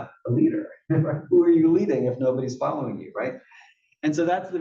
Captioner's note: laugh